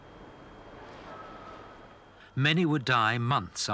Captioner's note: wind howling